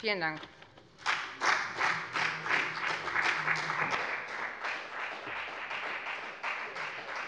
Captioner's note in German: Beifall bei der FDP